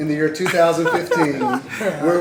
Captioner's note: laughter